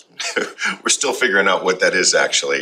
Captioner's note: chuckling